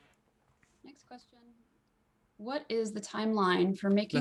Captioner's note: hablando inglés